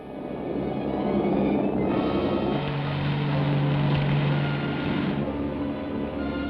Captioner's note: engine rumbles; dramatic orchestral music